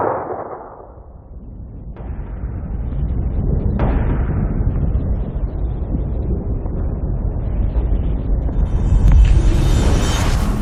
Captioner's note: gunshot echoes